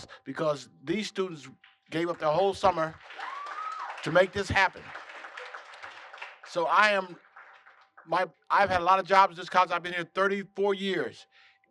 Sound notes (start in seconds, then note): 4.9 applause